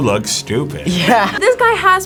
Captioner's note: laughs